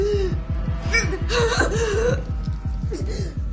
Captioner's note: continues gasping; gasping